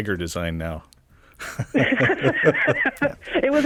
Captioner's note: laughing